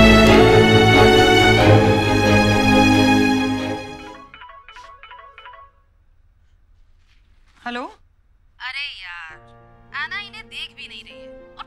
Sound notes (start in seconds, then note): 4.2 Cell phone ringing